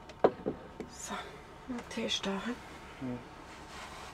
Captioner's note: in Swiss German